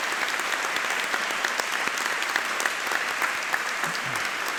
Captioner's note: audience applauding